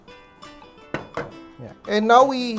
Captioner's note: knock